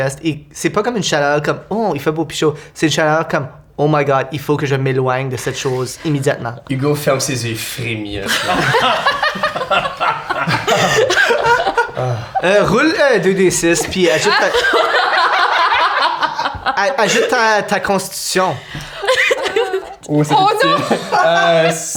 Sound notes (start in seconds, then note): 8.2 disgusted laughter; 13.8 laughter